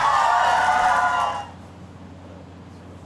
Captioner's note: cheering and applause